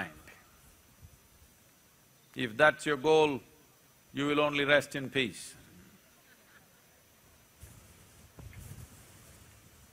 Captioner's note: few laugh